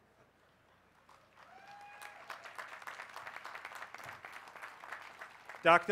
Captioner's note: applause